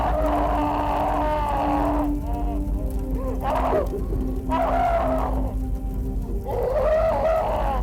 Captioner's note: John screaming; fire crackling